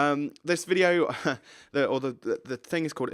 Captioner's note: chuckles